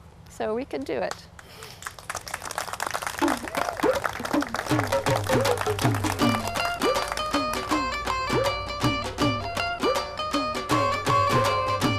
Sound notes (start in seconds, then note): 1.4 applause